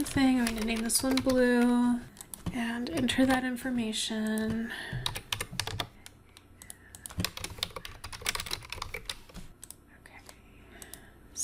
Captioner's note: typing and mouse clicking sounds